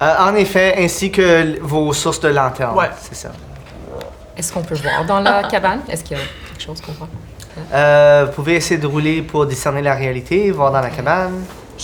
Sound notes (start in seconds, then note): 3.4 the toad croaks